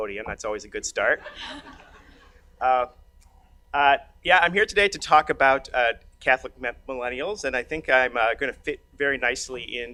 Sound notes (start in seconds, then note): 1.2 audience laughs